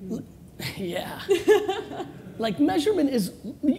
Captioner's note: laughing